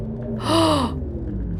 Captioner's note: gasp